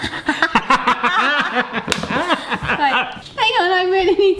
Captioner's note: both laughing